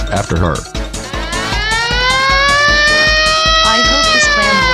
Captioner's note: siren wailing